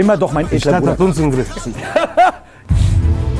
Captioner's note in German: Auflachen; Spannungsvolle Klänge